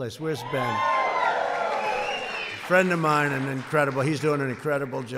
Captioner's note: applause